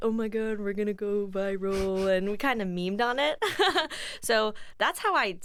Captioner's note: chuckles